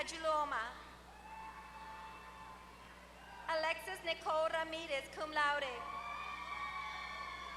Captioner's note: applause